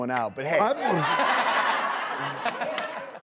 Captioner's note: laughing